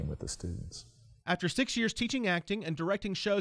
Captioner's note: voiceover